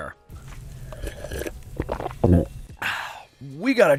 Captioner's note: slurping